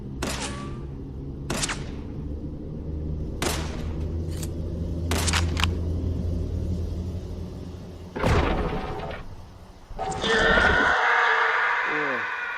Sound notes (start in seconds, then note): 10.0 loud scream of pain